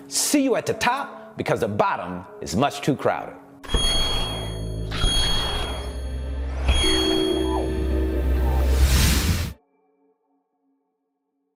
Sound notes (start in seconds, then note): 3.6 pulsing bell; 3.8 whooshing